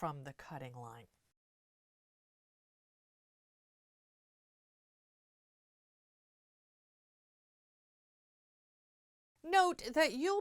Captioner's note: no Sound Present